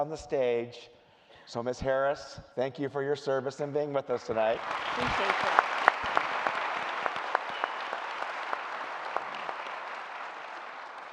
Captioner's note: applause